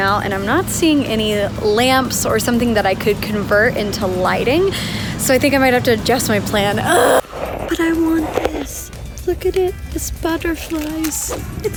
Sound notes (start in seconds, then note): 6.8 exaggerated sigh